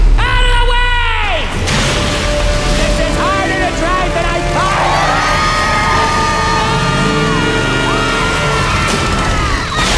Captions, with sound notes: Out of the way! This is harder to drive than I thought! [all screaming]